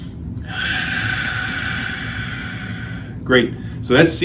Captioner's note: inhales; exhales